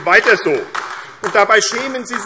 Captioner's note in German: Beifall AfD